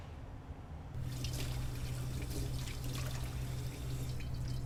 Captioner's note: water running